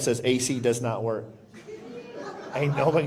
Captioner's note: laughter